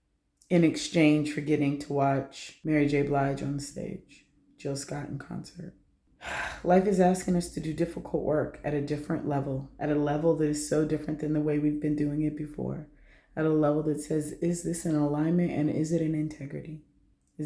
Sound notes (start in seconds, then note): 6.2 sigh